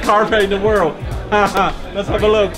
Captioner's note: laughing